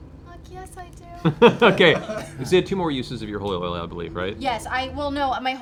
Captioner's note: laughs